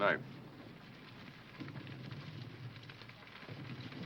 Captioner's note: fire crackling